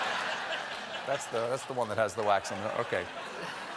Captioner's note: laughter